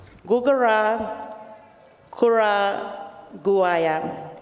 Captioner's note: speaks native language